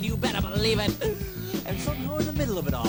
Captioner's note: inhale